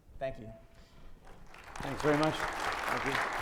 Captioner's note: audience applauds